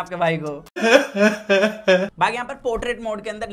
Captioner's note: cries